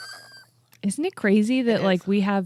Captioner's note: squealing